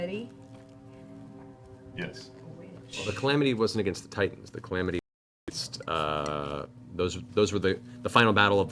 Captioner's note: none